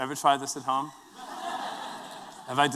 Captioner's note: laughter